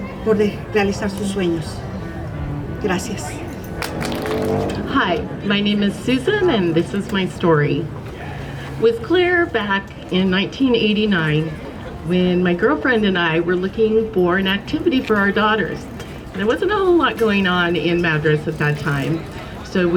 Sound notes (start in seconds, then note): 3.8 gente aplaudiendo